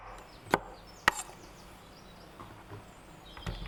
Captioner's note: knife cutting sound